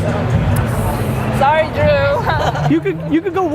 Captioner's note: laughing